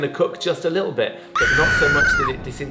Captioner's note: woman screams